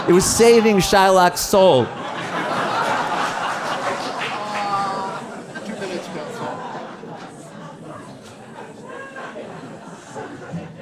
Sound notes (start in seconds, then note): 1.8 audience laughing; 7.6 speaks away from mic